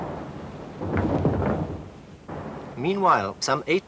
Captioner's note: guns firing